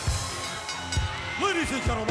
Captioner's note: bell dings